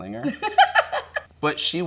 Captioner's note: laughs